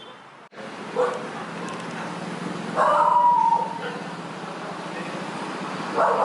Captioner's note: sound of dog barking